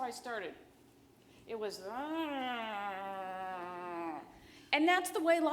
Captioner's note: hums